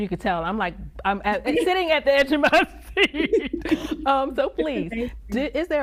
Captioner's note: laughing